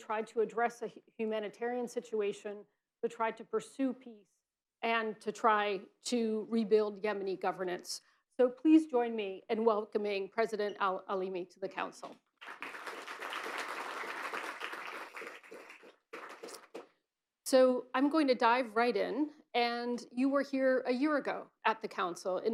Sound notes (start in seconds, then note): 12.4 applause